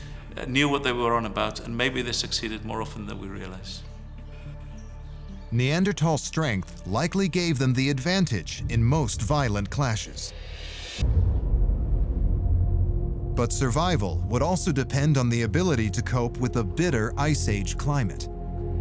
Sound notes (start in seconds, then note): 4.1 tense music; 4.6 birds chirping; 11.3 ominous music